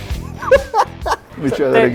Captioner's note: laughs